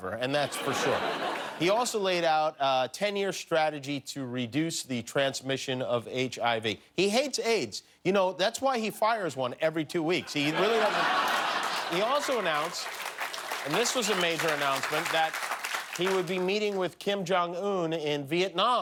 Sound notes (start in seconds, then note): 13.3 laughter; 15.5 applause